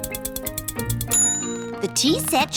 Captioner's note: bell dings